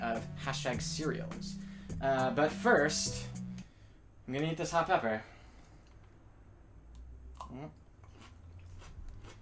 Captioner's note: munching noises